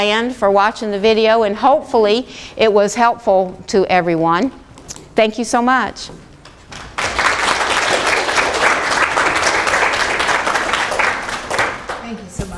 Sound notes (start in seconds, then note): 6.6 students applause